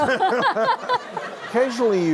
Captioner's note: laughter